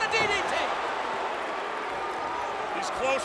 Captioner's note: crowd cheering